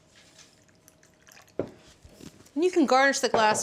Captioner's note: liquid sloshing